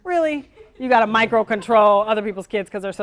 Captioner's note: audience laughter